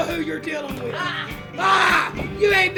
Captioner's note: both grunting